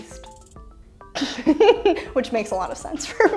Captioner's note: laughing